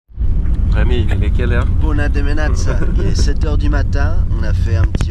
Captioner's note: French